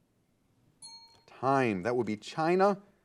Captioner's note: timer beeping